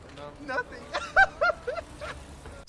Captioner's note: bursts into laughter